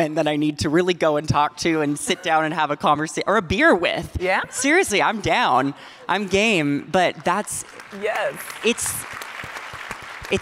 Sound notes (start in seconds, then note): 4.1 audience laughing; 6.1 audience clapping